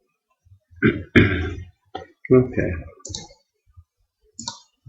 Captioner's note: achhem!